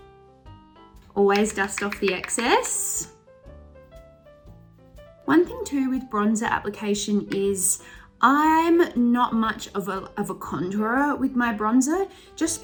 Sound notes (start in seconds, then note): 3.9 wood clacking